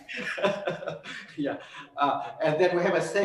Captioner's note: laughs